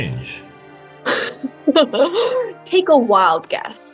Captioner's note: sarcastic chuckle that happens to be two steps from a goofy laugh